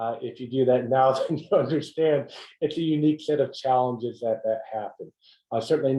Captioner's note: laugh